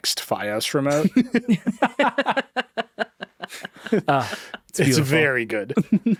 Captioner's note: laughing